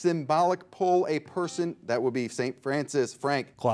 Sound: bell rings

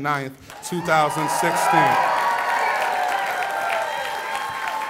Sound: cheers and applause

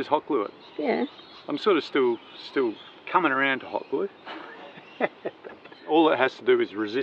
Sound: laughing

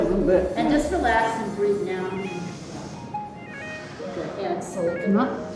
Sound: speaking faintly

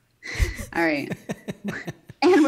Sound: laughing

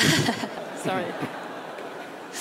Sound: laughter

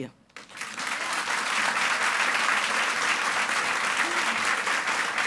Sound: audience applauds

